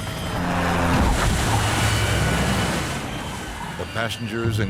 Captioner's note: crashing